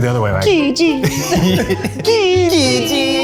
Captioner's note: laughs